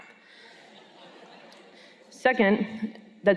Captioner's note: laughter